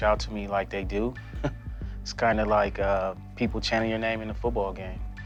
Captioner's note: laughs